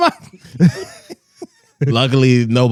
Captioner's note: laughing